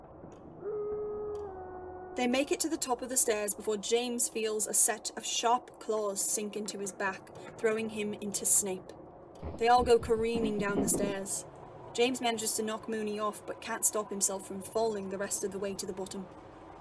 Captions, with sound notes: [Moony Howls] They make it to the top of the stairs before James feels a set of sharp claws sink into his back, throwing him into Snape. They all go careening down the stairs. [Bodies thumping on stairs] James manages to knock Moony off but can’t stop himself from falling the rest of the way to the bottom.